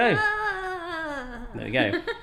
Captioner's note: softly screams